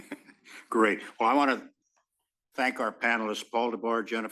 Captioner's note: laugh